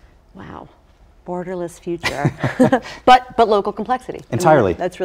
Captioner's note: laugh